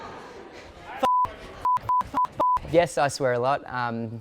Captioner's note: beep